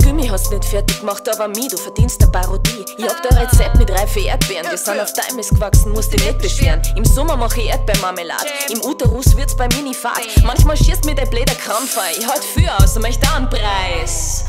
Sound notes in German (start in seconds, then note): 3.0 Haha!